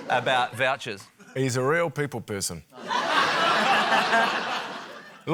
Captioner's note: laughter